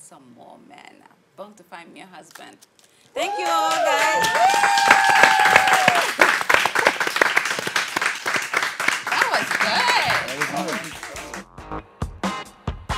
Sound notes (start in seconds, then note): 3.2 applause